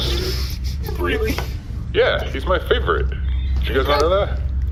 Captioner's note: laughing